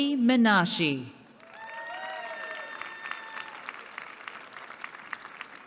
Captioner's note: applause